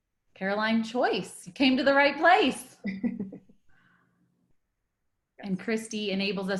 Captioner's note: laughs